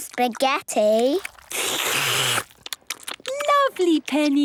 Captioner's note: all slurping